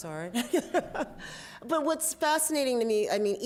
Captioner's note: laughs